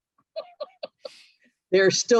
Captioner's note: laughs